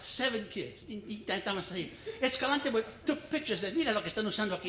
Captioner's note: foreign language